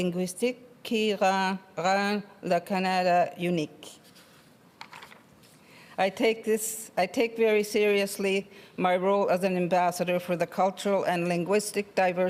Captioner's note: speaking French